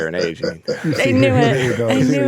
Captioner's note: chuckling